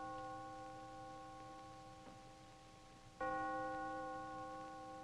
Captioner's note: church bell ringing